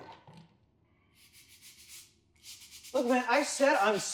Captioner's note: sound of brush cleaning the floor